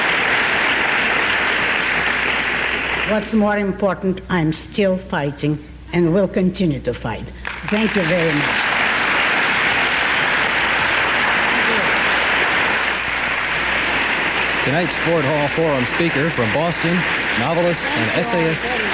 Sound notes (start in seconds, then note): 0.0 applause; 14.2 applause